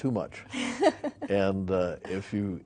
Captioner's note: laughing